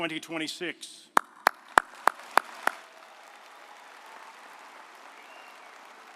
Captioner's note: audience applauding